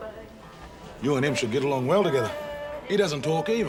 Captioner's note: none